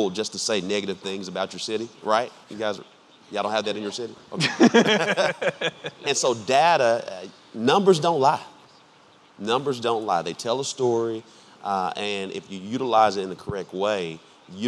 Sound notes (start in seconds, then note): 4.3 laughing